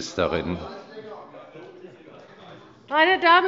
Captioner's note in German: Zurufe